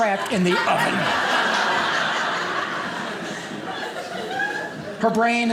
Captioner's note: audience laughing